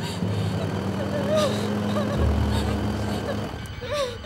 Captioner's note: crying